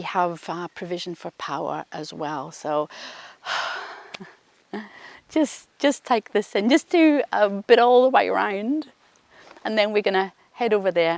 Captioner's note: exhales